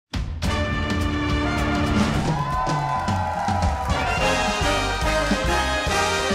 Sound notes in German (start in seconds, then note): 0.2 Dynamische Musik; 1.3 Jubel, Applaus